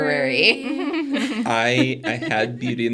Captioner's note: participants laughing